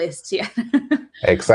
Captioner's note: laughs